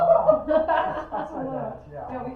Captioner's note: laugh